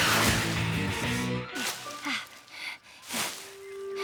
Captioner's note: breathing heavily